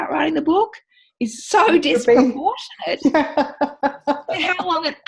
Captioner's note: laughing